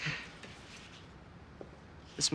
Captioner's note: Joe chuckling